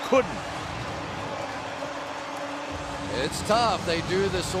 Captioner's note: pa announcement